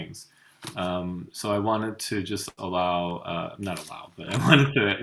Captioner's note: chuckles